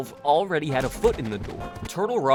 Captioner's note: sound of source engine model clipping, repeated thuds and clambering